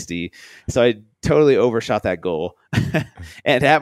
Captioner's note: laughs